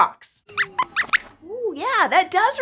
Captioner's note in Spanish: Squeaks chirría